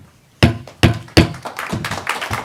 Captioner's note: gaveling; applause